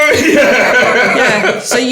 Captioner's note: laughing